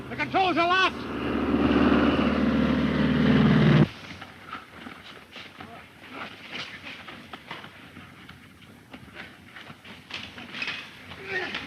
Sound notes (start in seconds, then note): 1.9 Phantom buzzing; 4.1 bodies scuffling; 8.6 bodies scuffling